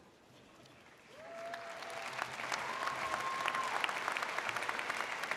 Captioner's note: audience cheers